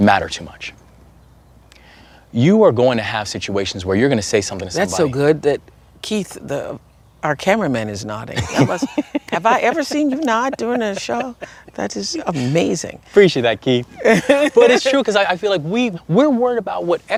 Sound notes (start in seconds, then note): 8.3 laughter